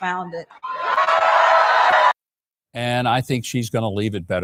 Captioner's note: crowd cheering